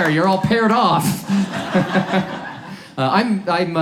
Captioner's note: audience laughs